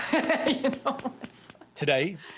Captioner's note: laughing